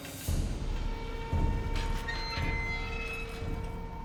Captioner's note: hinges creaking